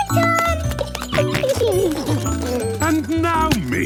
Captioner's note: giggling, snorting